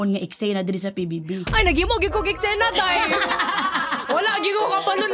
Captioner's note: laughter